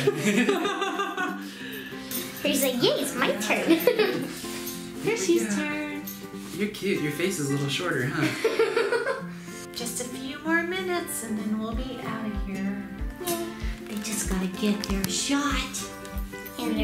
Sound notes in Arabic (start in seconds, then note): 0.0 جميع يضحك; 8.2 يضحك